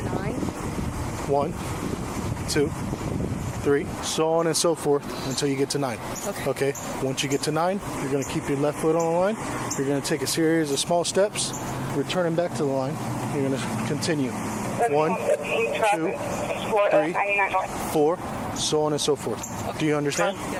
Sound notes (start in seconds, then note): 14.7 radio chatter